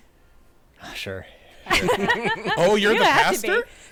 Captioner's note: sighing